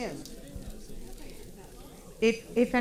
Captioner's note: paper crinkling and audience chattering